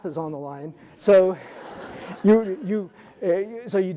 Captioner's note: audience laughing